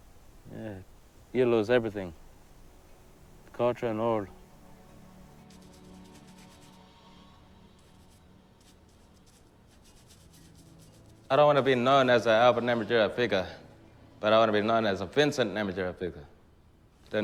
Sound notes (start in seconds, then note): 5.8 brush Scratching; 10.8 gentle music